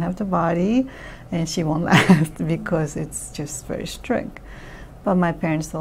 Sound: laughs

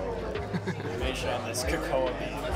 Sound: restaurant chattering

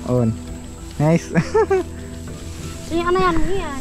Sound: laughing

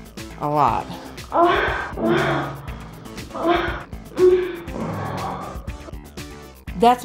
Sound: moaning

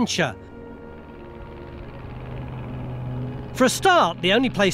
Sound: gentle music; airplane engine purring

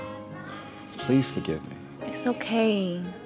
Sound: sighs

